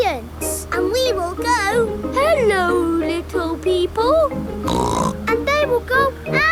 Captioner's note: snorts